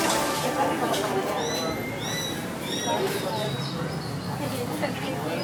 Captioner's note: customers chattering